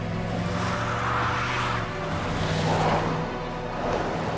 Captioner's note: tires screeching